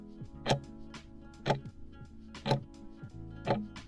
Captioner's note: timer ticking